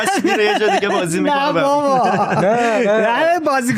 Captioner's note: laughs